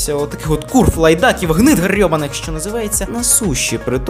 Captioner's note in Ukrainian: лається